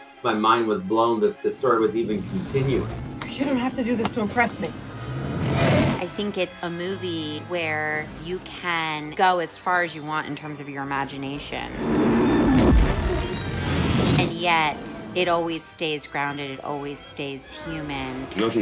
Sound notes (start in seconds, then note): 11.7 worm growling